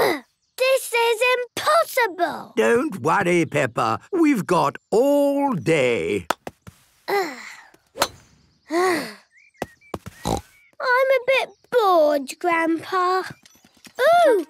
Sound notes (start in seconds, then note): 7.2 sighs; 10.2 snort